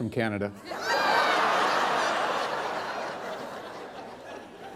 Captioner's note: laughter